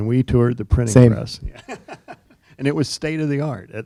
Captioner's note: chuckling